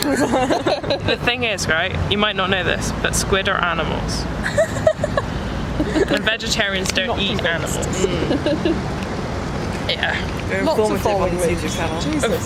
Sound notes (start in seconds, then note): 0.0 laugh; 5.8 laughs; 8.0 laughs